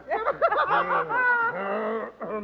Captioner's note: laughter